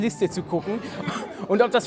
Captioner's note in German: Lachen